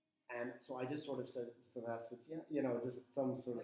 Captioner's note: speaking in foreign language